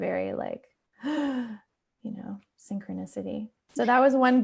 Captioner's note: gasps